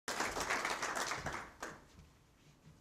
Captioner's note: applause